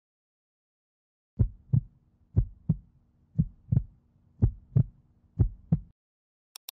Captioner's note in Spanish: latidos